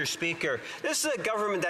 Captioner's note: speaking French